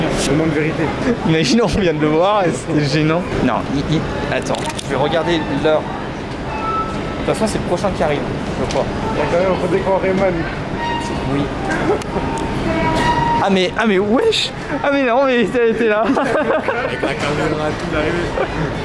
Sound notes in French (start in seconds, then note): 16.0 Rires